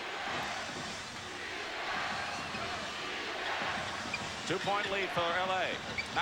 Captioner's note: crowd chanting "defense"